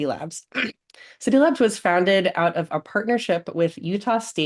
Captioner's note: clears throat